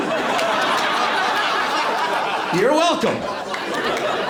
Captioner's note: laughter